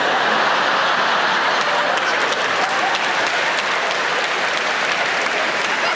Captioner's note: audience laughing; audience clapping